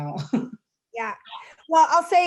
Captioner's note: chuckles